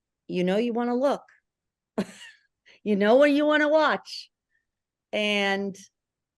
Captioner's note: laughter